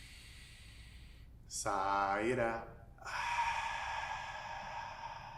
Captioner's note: inward breath; outward breath